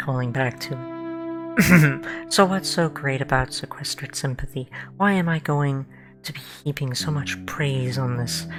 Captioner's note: ahem